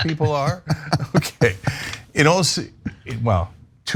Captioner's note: laugh